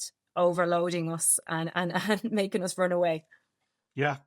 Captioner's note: laughing